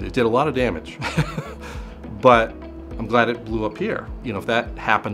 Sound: laughs

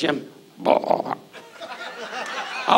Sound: Don burps; audience laughs

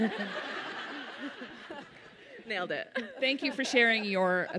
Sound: audience laughs

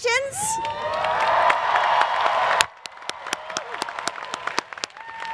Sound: applause

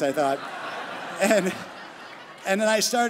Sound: crowd laughing

